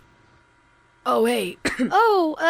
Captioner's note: coughs